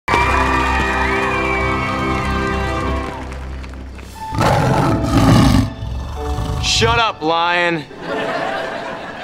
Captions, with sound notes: [cheering] [roaring] Shut up, lion! [laughing]